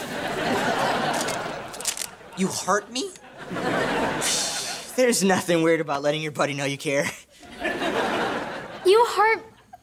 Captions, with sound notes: [laughing] You heart me? [laughing] There's nothing weird about letting your buddy know you care. [laughing] You heart--